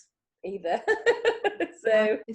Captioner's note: chuckles